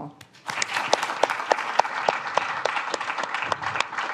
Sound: all applaud

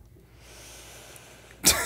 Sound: chuckle

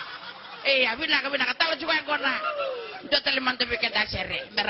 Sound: laughter

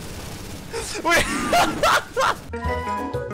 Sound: laughs

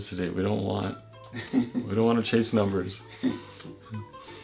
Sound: laughs

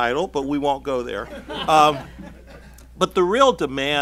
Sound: laughing

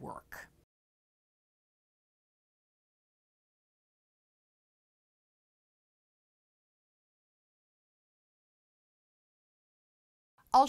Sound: no Sound Present

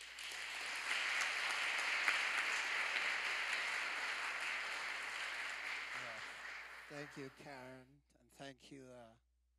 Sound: applause

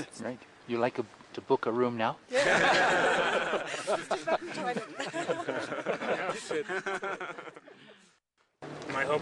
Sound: laughter

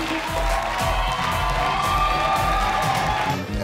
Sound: salsa music; crowd cheering

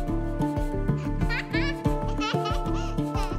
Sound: laughs

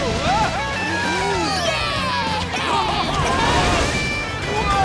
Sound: cheering

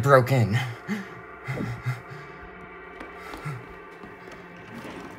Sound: filmer exhales

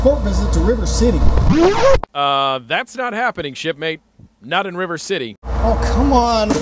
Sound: record scratch

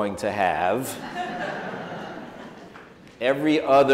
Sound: audience chuckles

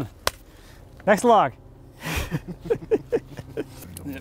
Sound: chuckles

